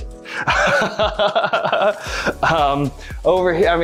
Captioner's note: chuckling